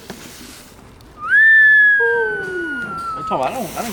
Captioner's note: whistles